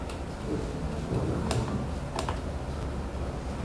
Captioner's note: print head noise